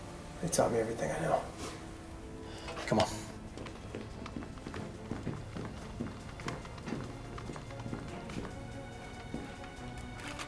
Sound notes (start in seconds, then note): none